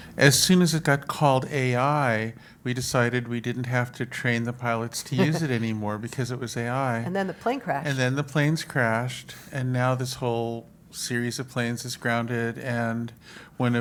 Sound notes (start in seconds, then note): 7.1 laugh